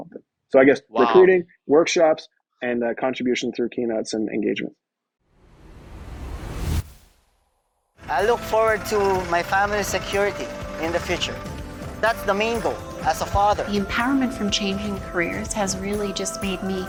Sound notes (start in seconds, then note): 5.5 graphics whooshing